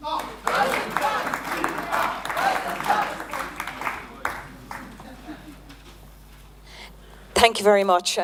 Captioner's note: applause